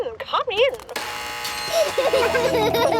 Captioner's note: gates buzzing; kids laughing